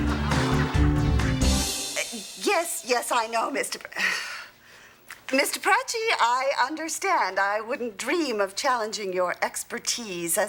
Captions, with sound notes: - Yes, yes, I know, Miss... (sighs) Miss De Pracci, I understand! I wouldn't dream of challenging your expertise